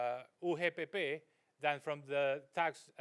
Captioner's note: speaks in foreign language